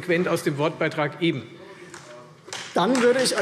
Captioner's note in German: Beifall Freie Demokraten